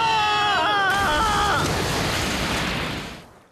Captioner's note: both screaming; splash